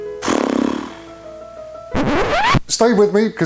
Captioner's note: blows raspberry; record scratching